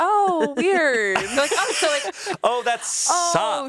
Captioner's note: laughs